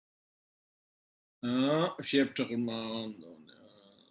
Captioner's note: tibetan